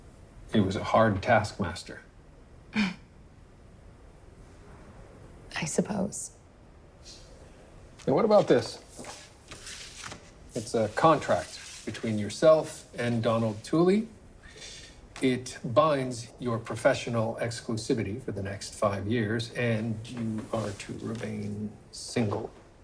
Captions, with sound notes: - He was a hard taskmaster. (scoffs) - I suppose. - Then what about this? It's a contract between yourself and Donald Tooley. It binds your professional exclusivity for the next five years, and you are to remain single.